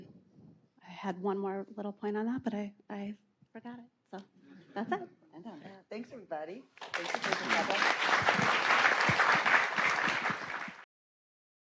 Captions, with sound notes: I had one more little point on that, but I forgot it. So that's it. - Thanks, everybody. (clapping drowns out speaker) (all clapping)